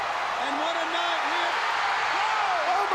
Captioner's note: audience cheering